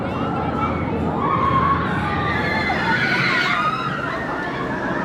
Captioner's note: more screams